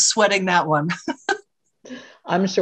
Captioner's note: laughter